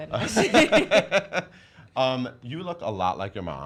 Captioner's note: laughs